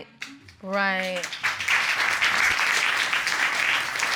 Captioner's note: audience applaud